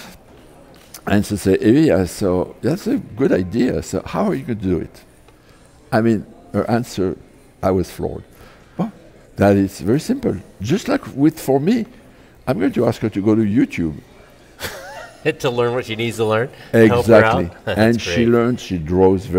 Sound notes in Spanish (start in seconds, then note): 14.6 Risas